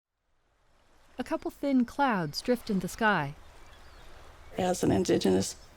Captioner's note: birds chirping; waves crashing